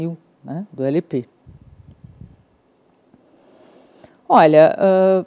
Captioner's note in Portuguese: silêncio